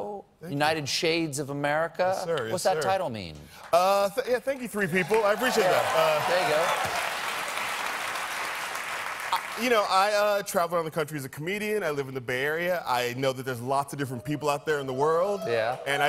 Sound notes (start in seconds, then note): 4.5 applause